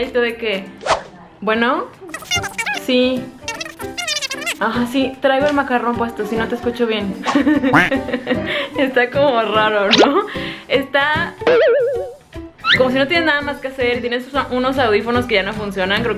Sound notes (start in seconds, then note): 7.2 laughter